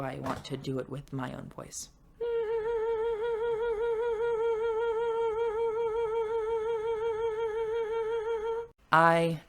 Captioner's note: humming with vibrato